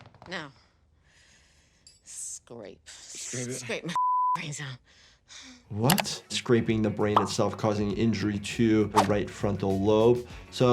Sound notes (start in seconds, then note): 3.9 beep